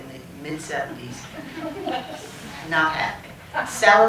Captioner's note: laughter